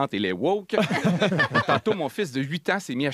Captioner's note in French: rires